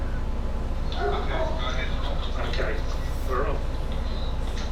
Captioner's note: dog barking